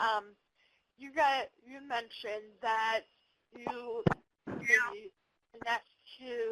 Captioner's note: audio warps